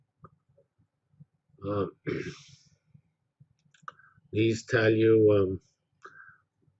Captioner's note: cough